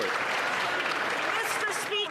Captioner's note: applause